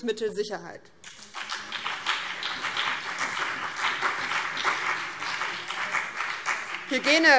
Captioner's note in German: Beifall BÜNDNIS 90/DIE GRÜNEN und CDU